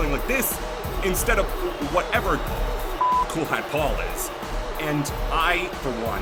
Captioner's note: beep